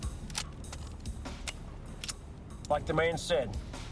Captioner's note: gun clicking